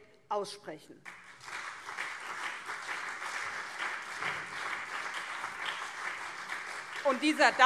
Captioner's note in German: Beifall SPD, CDU und vereinzelt BÜNDNIS 90/DIE GRÜNEN